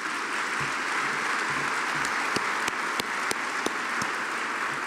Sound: audience applauding

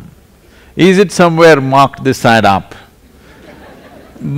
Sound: laughter

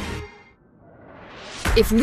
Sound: whoosh

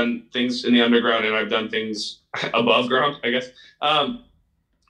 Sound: laughs

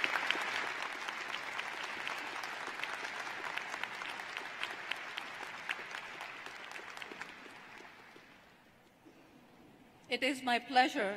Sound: applause

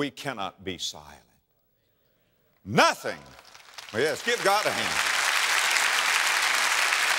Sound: audience applause

